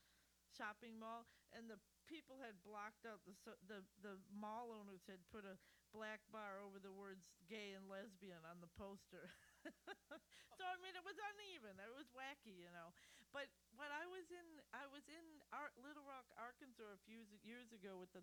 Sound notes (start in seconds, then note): 9.2 laughter